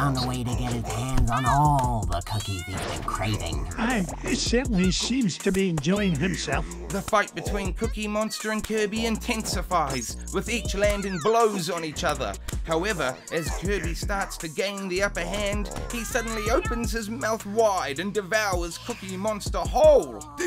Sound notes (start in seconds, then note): 3.2 chuckling